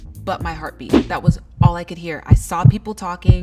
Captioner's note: heart beating